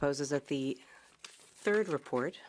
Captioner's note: speaking French